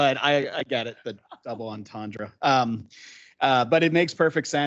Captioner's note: council laughing